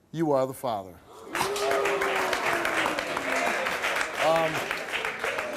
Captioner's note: audience clapping